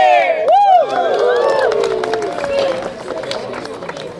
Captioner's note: crowd cheering